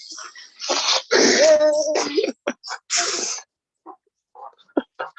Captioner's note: man laughs